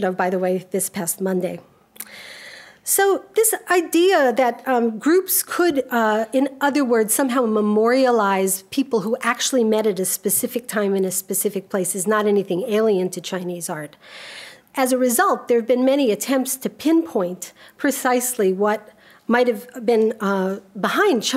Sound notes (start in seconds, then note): none